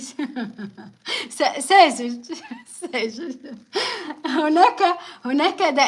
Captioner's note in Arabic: ضحك